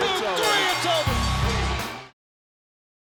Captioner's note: bell ringing